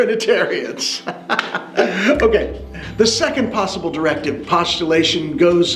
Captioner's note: narrator laughing